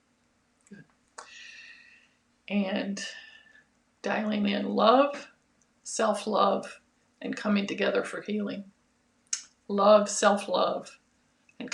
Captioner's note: deep breaths